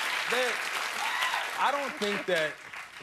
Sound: cheers and applause

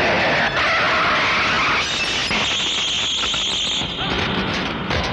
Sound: tire Screeching

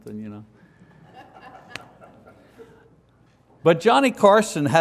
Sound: congregation members laugh

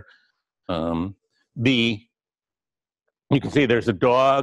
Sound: pause

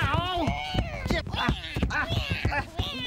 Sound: scuffling

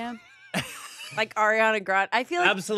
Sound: laughs

